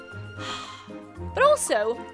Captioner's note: sighs